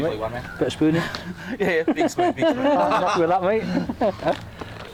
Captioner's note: they laugh